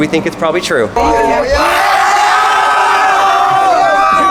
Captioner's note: crowd cheering